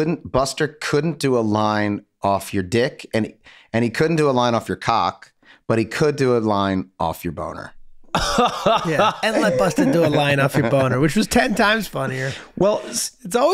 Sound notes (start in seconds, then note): 8.1 Glenn laughs